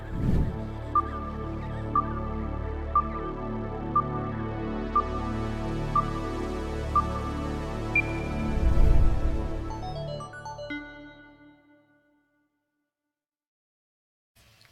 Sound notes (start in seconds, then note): 0.0 whoosh; 0.6 electronic countdown sound effect; 8.4 whoosh; 9.4 short uptempo melody